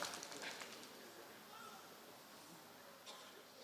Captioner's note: applause